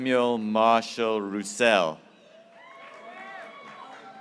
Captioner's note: graduates cheering